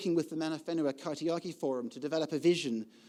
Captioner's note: speaking foreign language